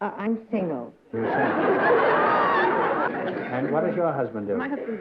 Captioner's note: laughter